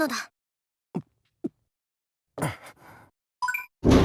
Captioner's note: nervous gulp